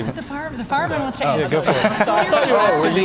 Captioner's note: laughter